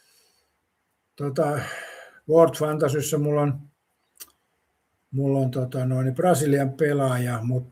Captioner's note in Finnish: huokaus